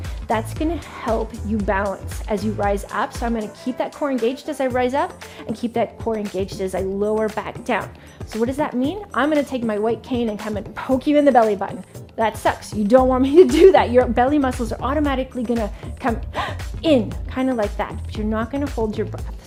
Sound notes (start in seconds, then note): 16.2 gasps